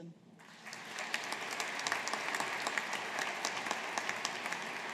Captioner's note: audience applauding